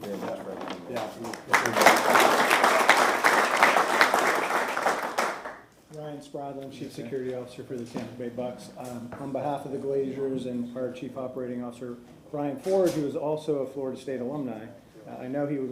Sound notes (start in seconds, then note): 4.2 applause